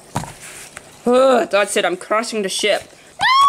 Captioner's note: Black Widow screams and panics